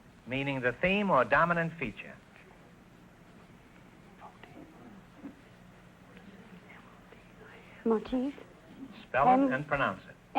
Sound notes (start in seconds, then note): 3.5 whispering